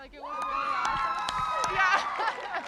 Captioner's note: cheering